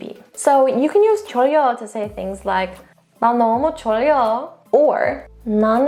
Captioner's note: speaks in Korean; speaking in Korean; speaks in Korean; speaking in Korean